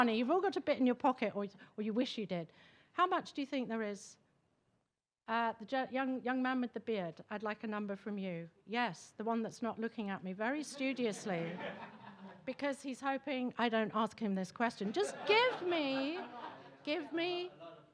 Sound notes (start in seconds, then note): 10.7 attendees laughing